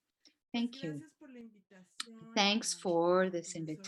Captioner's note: speaking spanish